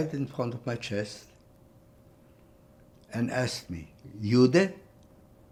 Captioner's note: german